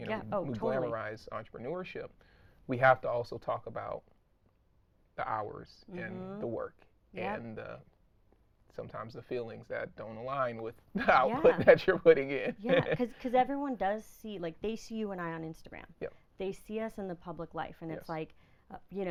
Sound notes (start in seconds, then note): 12.5 laughing